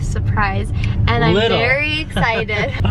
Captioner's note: chuckling